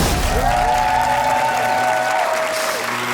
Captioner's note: cheering; leaf blower blowing hard